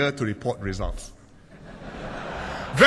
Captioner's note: laughter